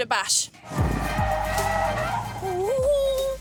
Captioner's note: tires screeching; screams